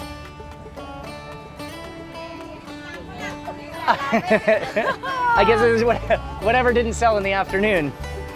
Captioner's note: laughing